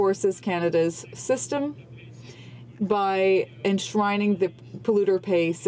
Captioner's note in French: voix de l'interprte